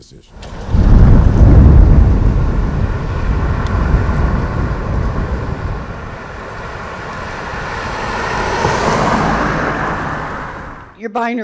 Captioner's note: street traffic